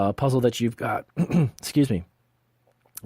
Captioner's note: clears throat